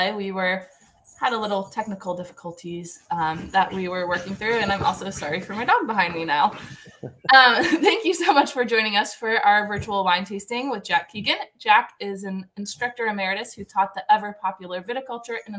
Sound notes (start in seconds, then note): 6.7 laughter